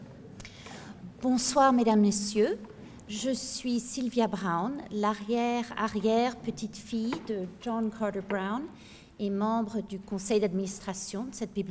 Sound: speaking french

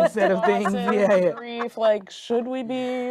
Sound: group laughing

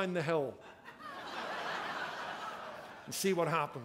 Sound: laughter

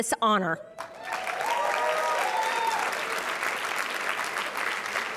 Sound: cheering

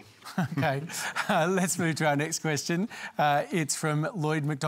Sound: chuckles

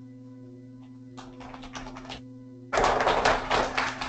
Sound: applauding

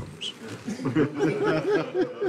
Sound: all laughing

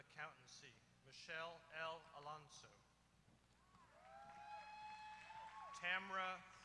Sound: applause

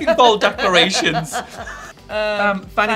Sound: Alexa laughing

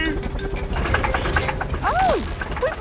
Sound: helicopter engine sputtering

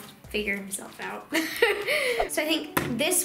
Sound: laughing

